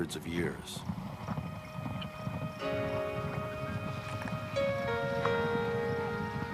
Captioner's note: thundering of hooves